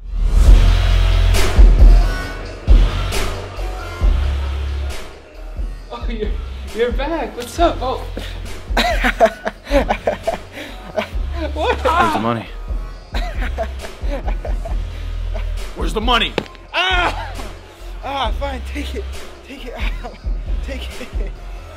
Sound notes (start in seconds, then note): 8.7 laughs; 16.3 ankle cracks